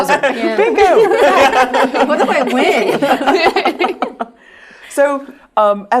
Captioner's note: laugh